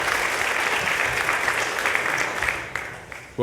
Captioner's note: applause